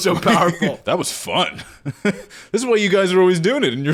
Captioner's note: laughing